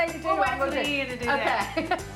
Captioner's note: laughing; chuckles